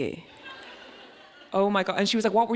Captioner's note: audience laughs